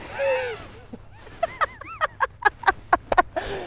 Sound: laughing

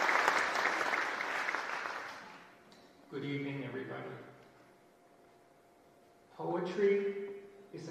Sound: applause

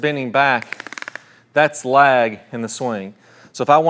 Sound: device snaps

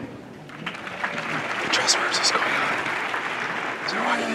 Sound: whispers

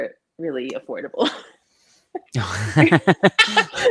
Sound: both laughing

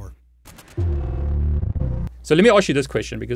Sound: electric sound

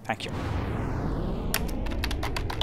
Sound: rocket launch; typing keys

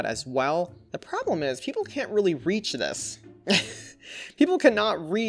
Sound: chuckles

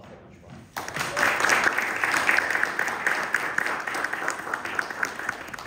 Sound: applause

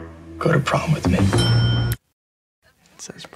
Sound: bell rings

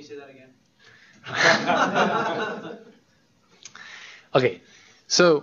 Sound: laughter

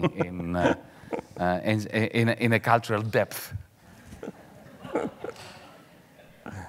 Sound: audience laughing mildly

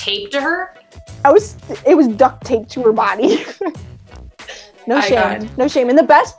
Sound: laughs

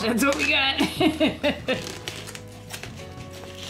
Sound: laughing

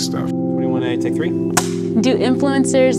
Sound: scene card snaps

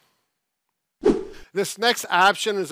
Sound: air whooshes

